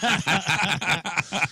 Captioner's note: laughing